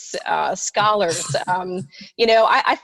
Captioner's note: laughing